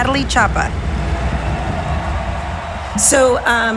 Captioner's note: crowd cheering